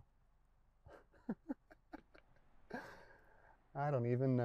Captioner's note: chuckles